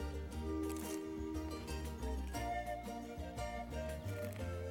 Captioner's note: crunching